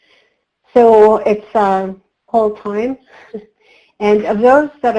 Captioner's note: chuckles